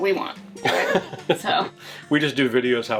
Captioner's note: laughing